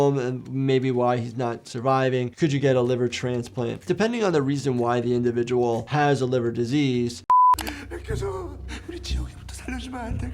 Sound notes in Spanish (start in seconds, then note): 7.3 pitido electrónico